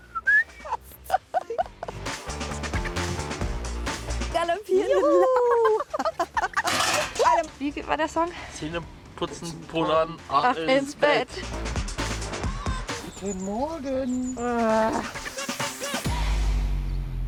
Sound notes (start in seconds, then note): 4.7 laughing; 13.9 annoyed groan from the tent